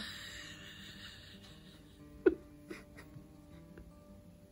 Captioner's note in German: Lachen